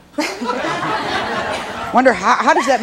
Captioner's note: and audience laughs